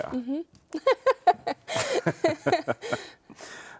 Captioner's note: laughing; both laughing